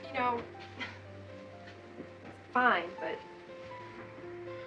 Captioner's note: sighs